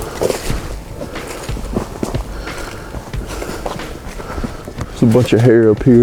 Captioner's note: sound of walking